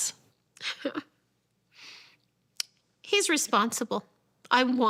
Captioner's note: scoffs